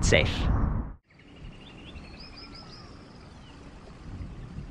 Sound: birds singing

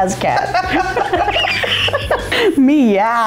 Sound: laughing

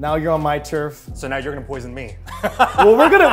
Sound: laughs

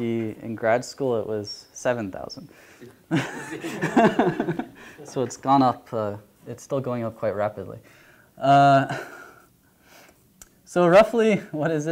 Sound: laughter

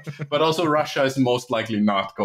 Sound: laughter

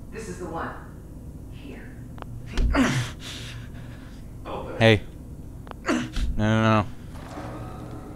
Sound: crying

